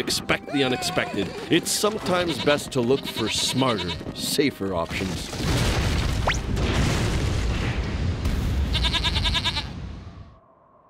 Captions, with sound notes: TO EXPECT THE UNEXPECTED, IT'S SOMETIMES BEST TO LOOK FOR SMARTER, SAFER OPTIONS. (bleats)